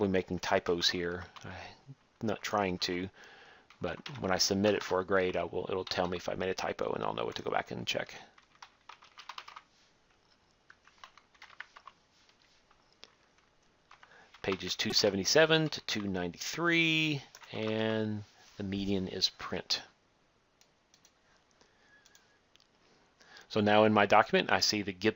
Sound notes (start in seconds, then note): 12.3 typing; 20.9 clicking